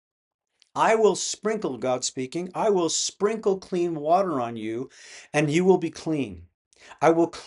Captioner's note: God speaking